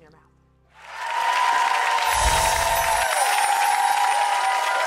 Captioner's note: audience clapping